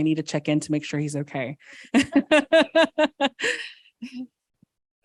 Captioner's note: laughs